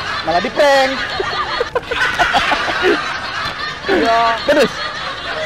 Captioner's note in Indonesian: ketawa